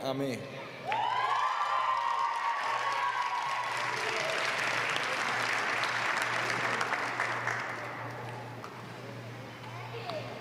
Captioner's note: applause